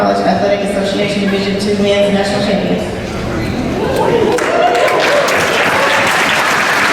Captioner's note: applause